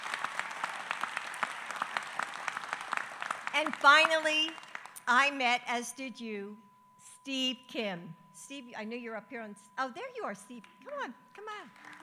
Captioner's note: applause